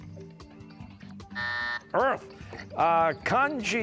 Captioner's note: buzzer